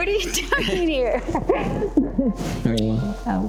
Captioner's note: both laughing; lips smack